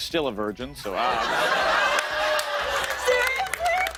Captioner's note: laughter